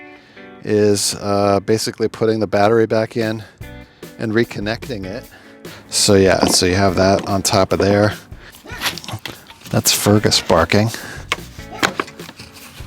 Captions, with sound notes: is basically putting the battery back in and reconnecting it. So, yeah. So you have that on top of there. (Fergus barking) That's Fergus barking.